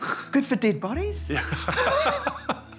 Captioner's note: both laugh; laughs